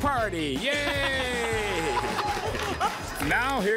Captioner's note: laughter